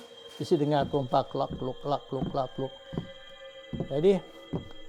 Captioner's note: marching sound